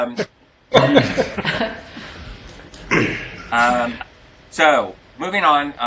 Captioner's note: laughing